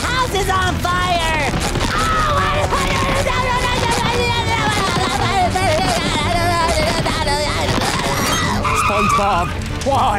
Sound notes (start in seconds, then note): 1.6 babbling